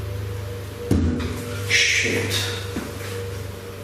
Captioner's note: bang emits from wall